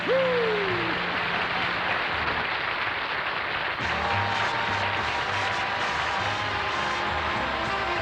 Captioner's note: applause